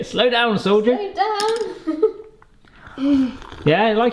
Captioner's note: laughs